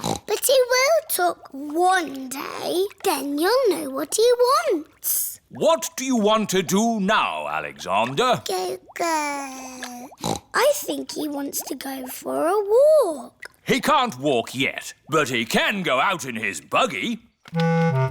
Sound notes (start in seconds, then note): 0.0 snorts; 8.8 babbles; 10.2 snorts